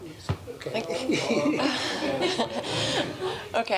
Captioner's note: laughter